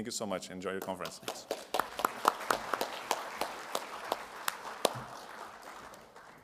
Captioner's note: applause